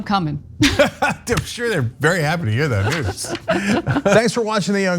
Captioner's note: laugh